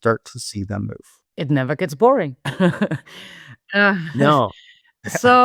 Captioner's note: chuckles